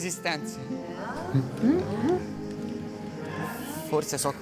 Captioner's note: crowd murmurs confused